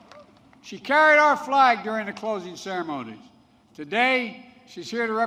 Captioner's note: applause